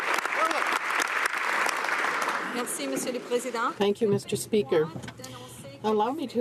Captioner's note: some Applause